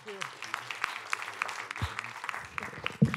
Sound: applause

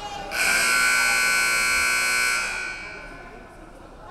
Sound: buzzer buzzing

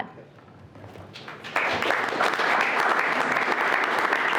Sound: everyone clapping

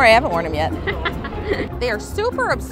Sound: laughs

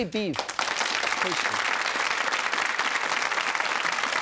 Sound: audience claps

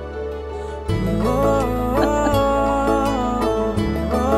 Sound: laughing

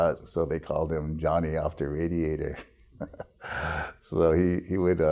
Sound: laughs

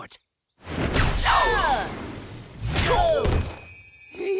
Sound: shrieking, grunting

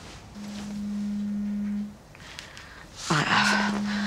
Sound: phone vibrates

